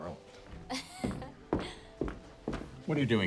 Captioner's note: student laughs